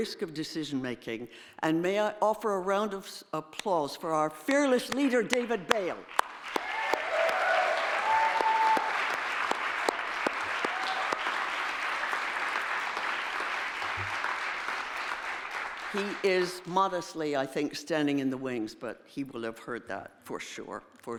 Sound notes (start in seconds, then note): 6.4 audience applauding